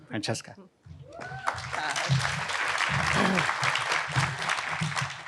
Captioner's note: audience cheering